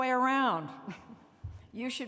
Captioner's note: laughter